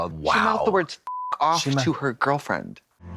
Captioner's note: beep